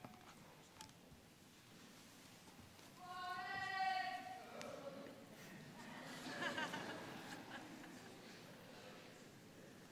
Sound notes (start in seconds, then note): 2.9 calls out; 6.1 scattered laughter